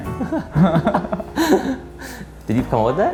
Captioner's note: men laughing